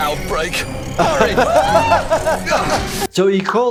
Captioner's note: laughing; yelling